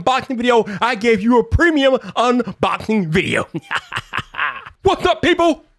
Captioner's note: laughs